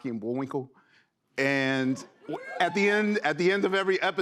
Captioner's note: scattered cheers